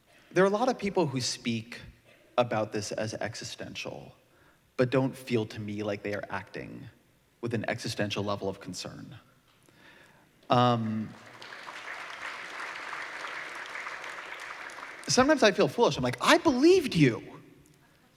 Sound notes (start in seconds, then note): 9.1 applause